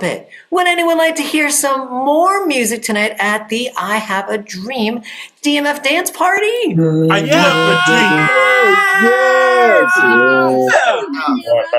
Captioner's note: applause